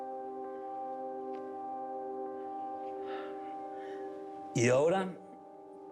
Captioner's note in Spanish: suspirando